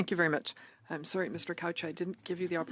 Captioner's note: speaking French